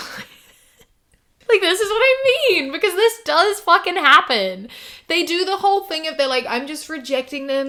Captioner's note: laughs